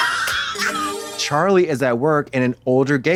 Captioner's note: bright chime